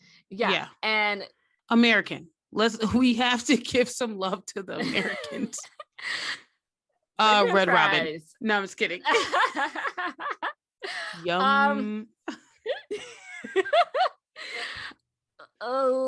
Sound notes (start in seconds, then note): 12.2 laughter